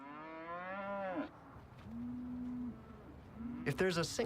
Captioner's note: cow moos